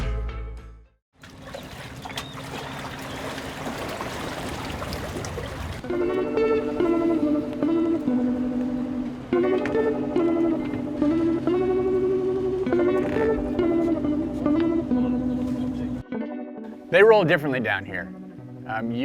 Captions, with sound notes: (water splashing) (calm music) They roll differently down here.